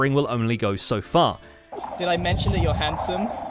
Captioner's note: sculk noises